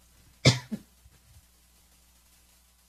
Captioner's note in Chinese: 咳嗽聲